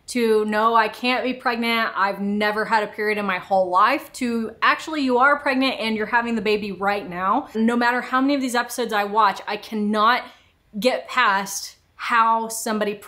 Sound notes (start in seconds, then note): none